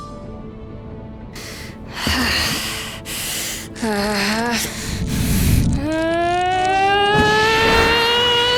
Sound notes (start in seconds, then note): 4.6 breathes, then grunts